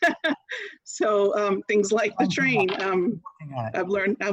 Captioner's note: laughter